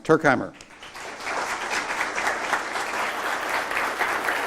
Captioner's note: applause